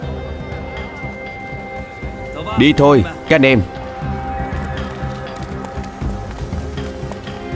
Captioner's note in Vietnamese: Vỗ tay